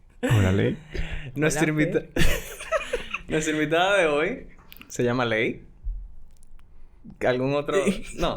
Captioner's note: laughs; laughs